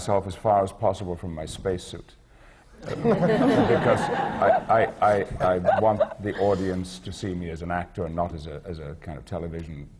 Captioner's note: laughter